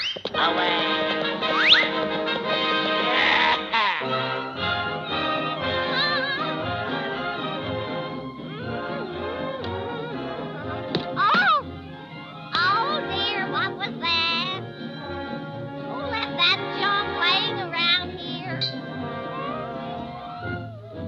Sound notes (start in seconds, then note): 0.3 horse clopping; 3.8 victorious music; 3.8 vizier grumbling; 6.3 Olive humming